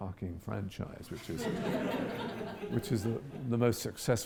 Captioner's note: audience laughs